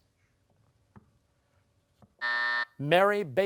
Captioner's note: buzzer